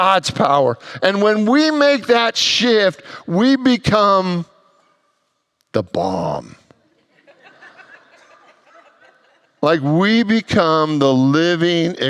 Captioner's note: congregants laugh